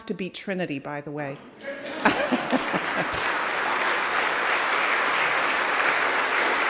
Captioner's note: applauding